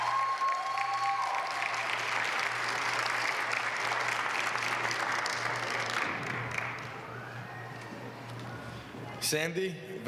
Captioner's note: applause